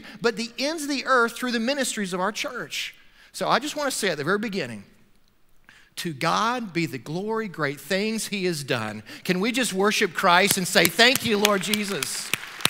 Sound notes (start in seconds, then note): 10.4 clapping; 10.8 loud applause